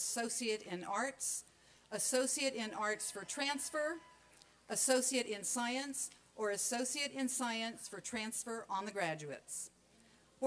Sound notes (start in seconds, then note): none